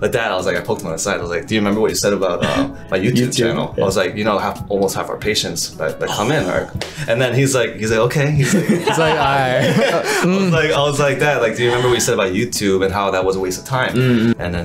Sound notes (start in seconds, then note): 8.4 all laughing